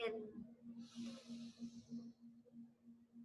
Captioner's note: inhales